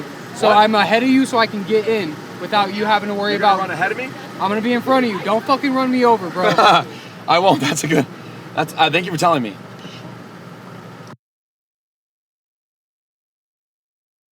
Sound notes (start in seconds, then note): 7.2 laughing